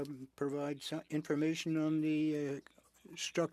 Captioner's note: speaking French